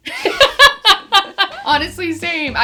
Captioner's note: laughs